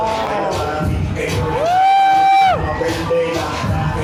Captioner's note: cheering